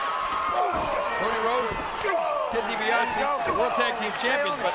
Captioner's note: fighters grunting